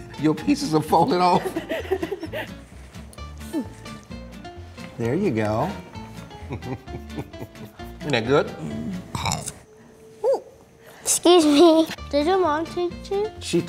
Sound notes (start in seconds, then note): 1.2 laughing; 6.3 chuckling; 8.6 burping